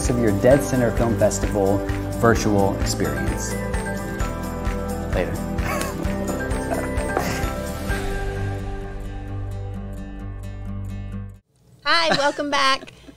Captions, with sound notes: of your Dead Center Film Festival Virtual Experience. Later. (laughs) - Hi, welcome back.